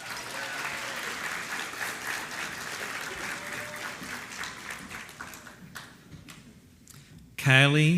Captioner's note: applause